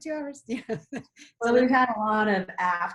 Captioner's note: laughs